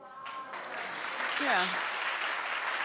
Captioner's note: audience applauding